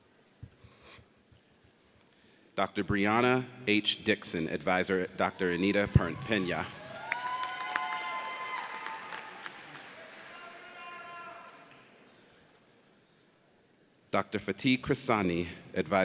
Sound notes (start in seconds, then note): 7.1 audience cheers